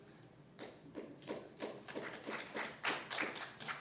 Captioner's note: scattered applause